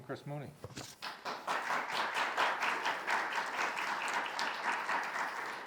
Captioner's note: audience applause